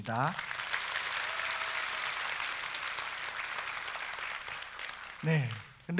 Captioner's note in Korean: 박수